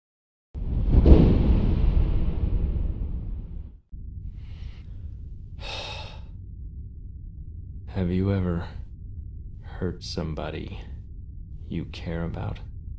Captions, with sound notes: [Sigh] Have you ever hurt somebody... you care about?